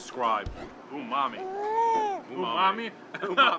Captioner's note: baby crying